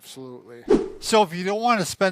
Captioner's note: whooshing sound